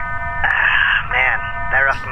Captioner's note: sighs